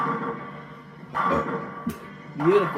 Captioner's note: burp